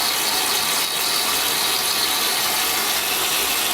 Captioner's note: water running